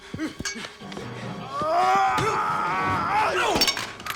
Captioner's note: Knox yelling; Knox grunting